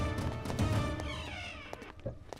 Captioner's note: Door opens